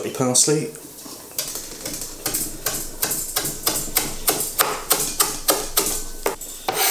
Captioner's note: chop chop chop chop chop chop chop chop; scrape